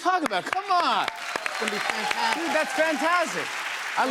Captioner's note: cheers and applause